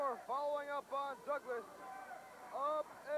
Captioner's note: crowd chatter